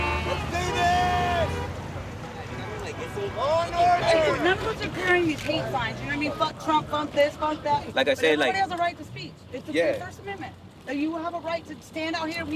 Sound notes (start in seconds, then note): 2.5 simultaneous crowd chatter